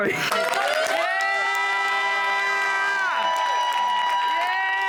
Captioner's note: company cheering